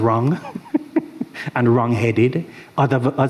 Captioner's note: chuckles